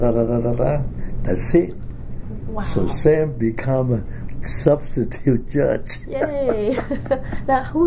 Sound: laughs

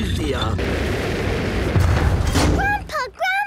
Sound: thuds

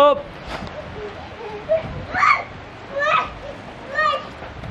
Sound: child yells

